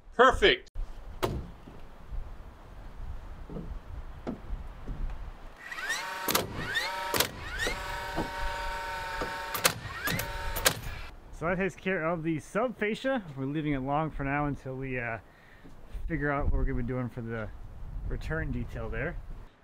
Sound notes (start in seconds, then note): 1.2 wood thuds softly; 5.6 drill squealing loudly; 6.2 wood banging loudly